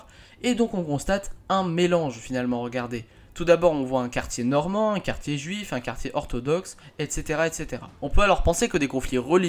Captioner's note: Latin